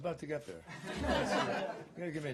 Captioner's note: laughter